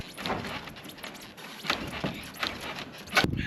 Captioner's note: crate squeaks